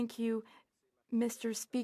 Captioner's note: speaking French